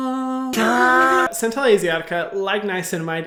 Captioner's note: groaning